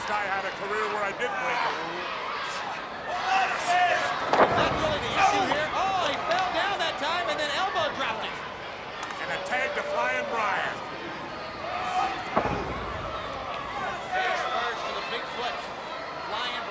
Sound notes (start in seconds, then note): 2.2 wrestlers grunting; 4.2 body thudding; 11.9 blows thudding